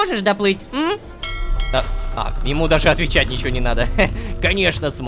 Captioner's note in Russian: Звук корабельного колокола